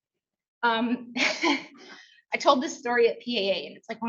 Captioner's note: laughs